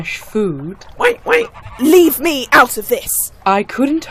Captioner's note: quacks